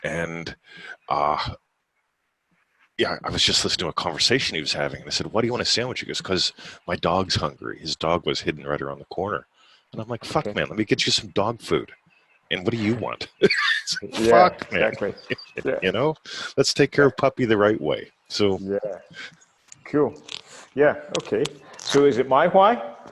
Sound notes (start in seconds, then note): 12.5 laughing